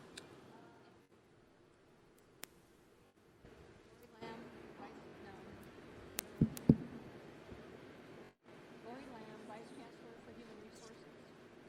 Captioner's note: off mic